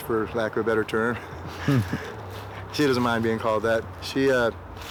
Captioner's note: laughs